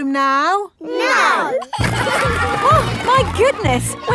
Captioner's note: giggling